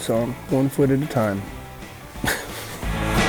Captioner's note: laughs